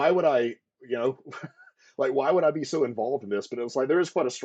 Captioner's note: laughter